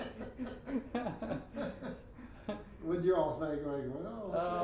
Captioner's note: both laughing